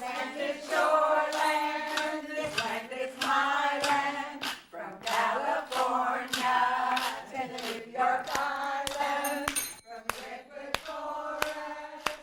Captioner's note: �cheering and applause�